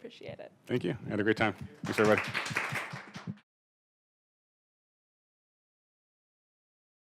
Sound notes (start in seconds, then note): 1.7 applause